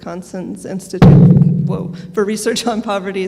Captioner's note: microphone booms